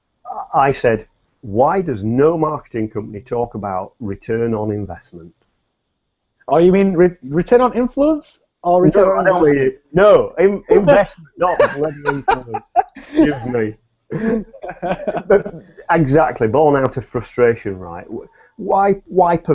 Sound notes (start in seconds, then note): 14.1 both laugh